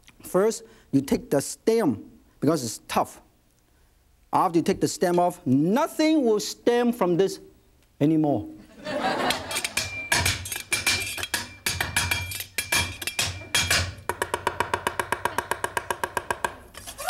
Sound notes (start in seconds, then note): 8.7 audience laughs; 9.2 knife clinks rhythmically; 14.1 fast knife chops